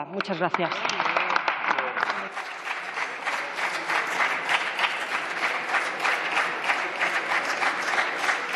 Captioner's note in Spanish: Aplausos